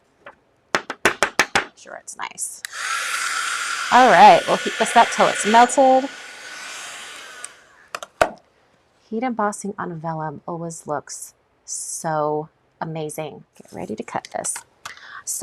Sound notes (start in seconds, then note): 2.6 tool whirring